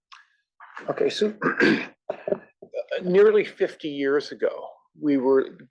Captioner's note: cough